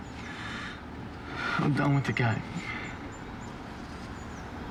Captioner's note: breathing raggedly